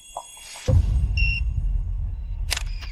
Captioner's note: beeping